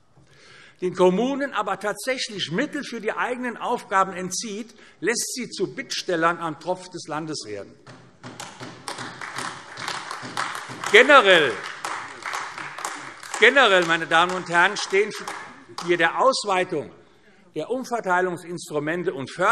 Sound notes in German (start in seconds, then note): 8.3 Beifall AfD